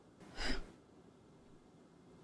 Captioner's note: sigh